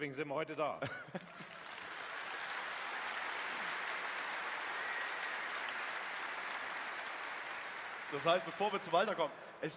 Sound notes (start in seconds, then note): 1.2 applause